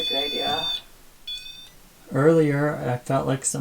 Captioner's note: machine beeping